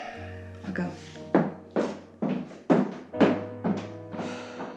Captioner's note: footsteps